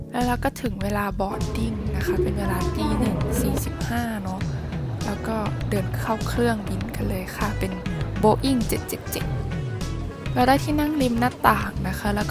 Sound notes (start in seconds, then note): 8.7 nervous laugh